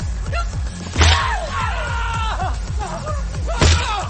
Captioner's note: man yelling; dramatic music continues; man groaning